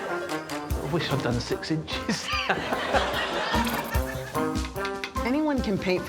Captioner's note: laughs